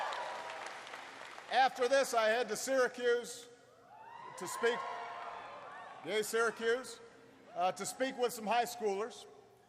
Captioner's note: applause; applause